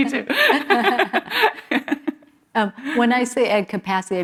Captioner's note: laughter